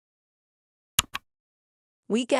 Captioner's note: click